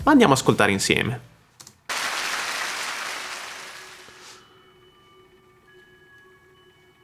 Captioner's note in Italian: Applauso